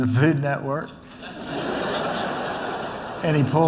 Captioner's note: laughter